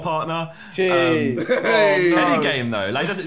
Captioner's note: laughing